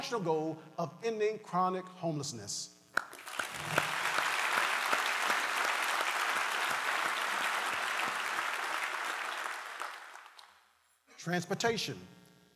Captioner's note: applause